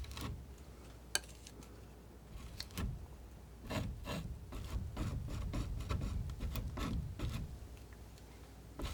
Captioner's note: scratching